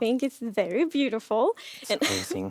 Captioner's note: laughs